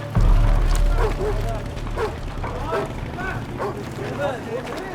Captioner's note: dog barking